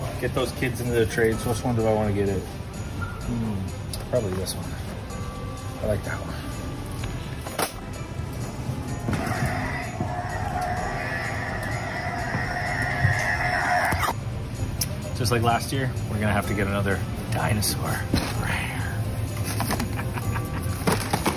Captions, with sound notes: Get those kids into the trades. So which one do I want to get? Probably this one. I like that one. (knock-off lightsaber sounds) Just like last year. We're going to have to get another dinosaur. Rawr.